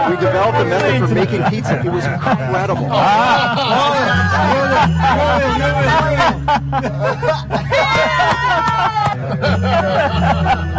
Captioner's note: laughter